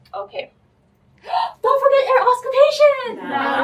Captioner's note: gasp